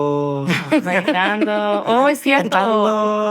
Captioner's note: laughing